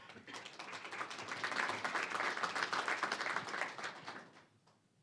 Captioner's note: applause